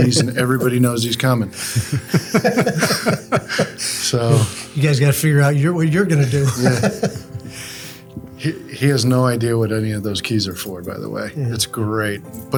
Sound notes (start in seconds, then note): 0.0 laughs; 6.0 laughs